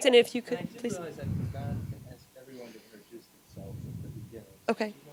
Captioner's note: gentle speaking